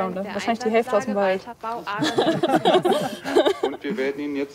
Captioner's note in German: lacht